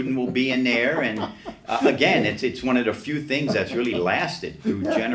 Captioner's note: laughs